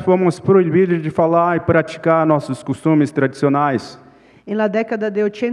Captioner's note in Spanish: Ponente habla en portugués